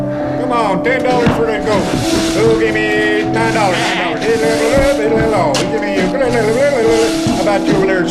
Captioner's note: auctioneer Chanting and sweeping sounds